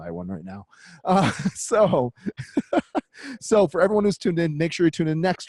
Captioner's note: laughs